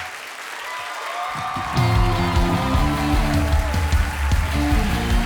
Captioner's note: audience applauding; audience cheering; upbeat music